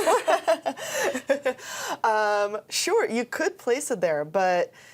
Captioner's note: both laughing